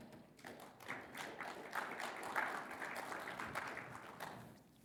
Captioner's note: audience applauds